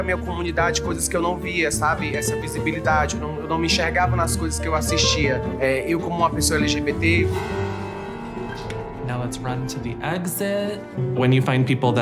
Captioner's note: speaking foreign language